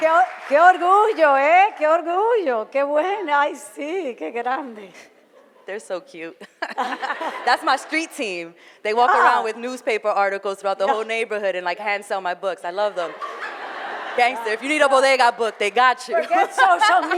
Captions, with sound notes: (foreign language) - They're so cute. (laughter) - That's my street team. They walk around with newspaper articles throughout the whole neighborhood and hand-sell my books, I love them. (audience laughter) - Gangster, if you need a bodega book, they got you. (laughs)